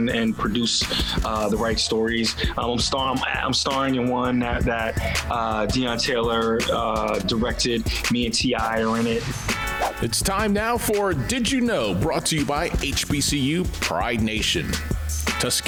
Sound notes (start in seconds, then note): 9.7 whoosh sound